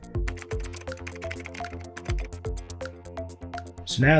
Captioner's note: upbeat music; keyboard clicking